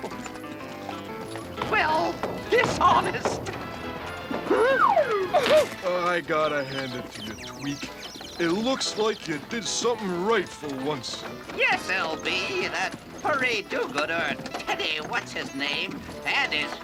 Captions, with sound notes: well, dishonest. (gasps) I gotta hand it to you, Tweek. It looks like you did something right for once. Yes, L.B. That furry do-gooder Teddy What's-his-name and his feeble-minded friends